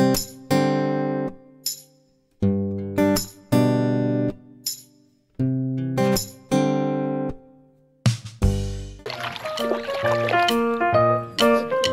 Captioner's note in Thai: ปรบมือ